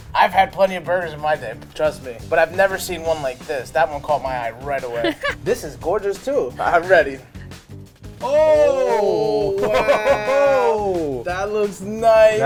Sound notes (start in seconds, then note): 4.9 laughs; 8.4 impressed exclamations